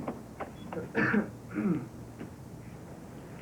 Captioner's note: cough